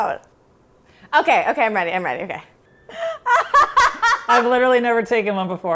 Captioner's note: laughing